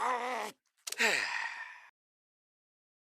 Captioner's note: growls in Anger; sighs